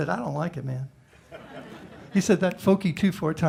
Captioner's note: laughter